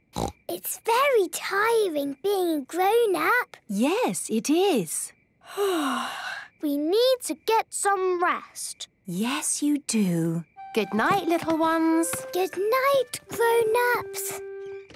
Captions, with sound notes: - Snort! It's very tiring being a grown-up. - Yes, it is. - (yawning) We need to get some rest. - Yes, you do. - Good night, little ones. - Good night, grown-ups.